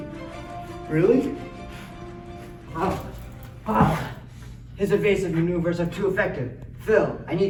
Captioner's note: intense Fighting Sounds